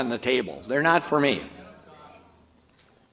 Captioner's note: audience murmurs